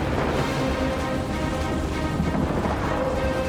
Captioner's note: none